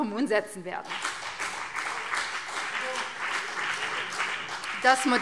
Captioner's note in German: Beifall BÜNDNIS 90/DIE GRÜNEN und vereinzelt CDU